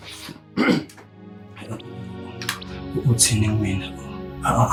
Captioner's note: clears throat